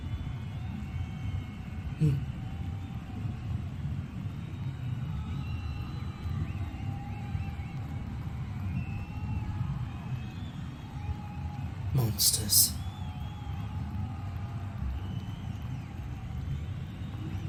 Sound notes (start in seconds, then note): 2.0 soft grunt